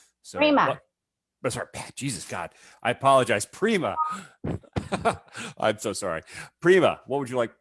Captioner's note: laughs